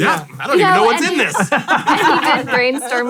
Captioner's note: all laugh